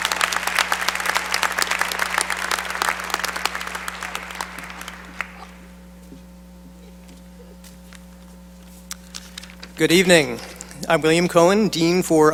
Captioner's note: applause